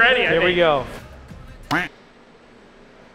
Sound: quack

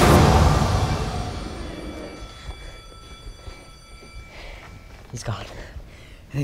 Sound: school bell rings

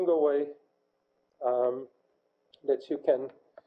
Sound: pause

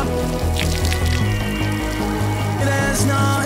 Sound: pissing sounds

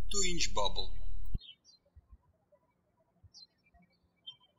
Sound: birds chirping

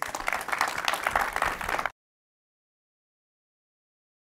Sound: applauding

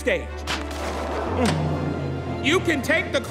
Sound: crowd gasping

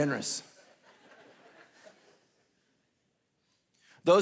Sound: congregation laughing

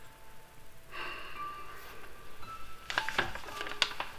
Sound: sighing

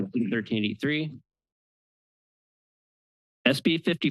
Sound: pause

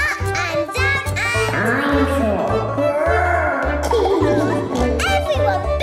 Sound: laughing

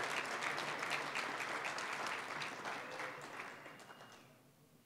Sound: applause, cheering; applause

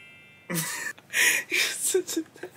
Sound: laughs

